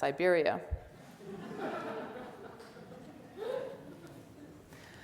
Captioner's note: audience laughs